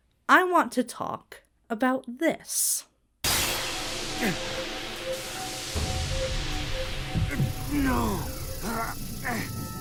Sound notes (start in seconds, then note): 3.2 Shadow grunts; 3.2 energy buzzes; 7.2 Shadow groans; 7.8 tense music